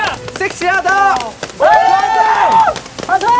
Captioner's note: cheering & screaming